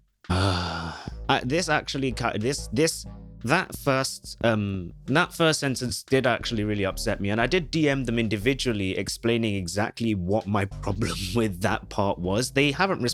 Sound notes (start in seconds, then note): 0.3 sighs; 1.3 stumbling over words